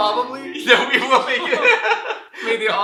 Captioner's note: laughing